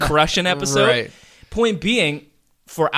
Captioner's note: laughs